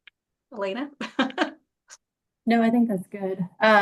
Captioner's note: chuckles